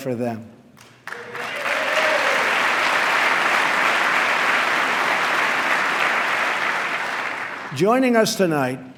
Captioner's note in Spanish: aplauso